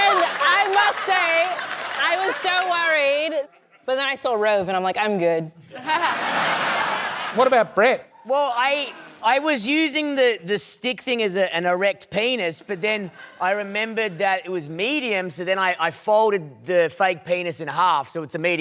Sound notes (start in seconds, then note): 5.7 laughter